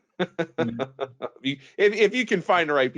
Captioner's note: laughs